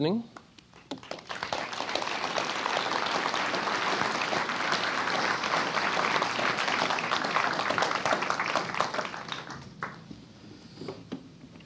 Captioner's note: applause